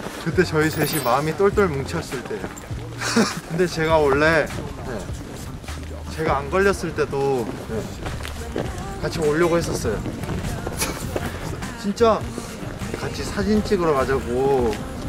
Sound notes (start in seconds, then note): 10.3 haha~